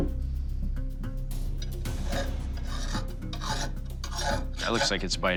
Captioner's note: metal scraping